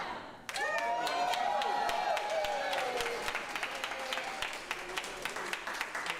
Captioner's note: audience cheering and applauding